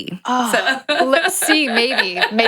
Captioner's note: laughs